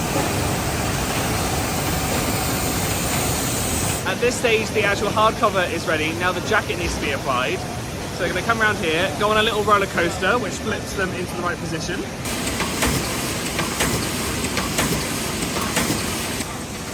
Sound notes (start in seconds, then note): 12.3 machine thunking